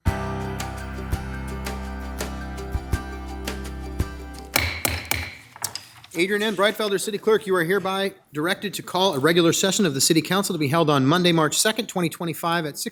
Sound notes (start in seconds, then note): 0.0 bright music; 4.5 gavel bangs